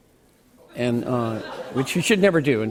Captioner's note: laughter